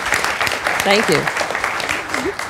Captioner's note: applause